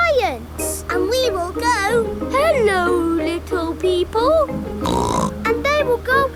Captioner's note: snorts